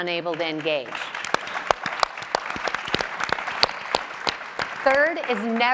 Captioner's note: audience and panelists applauding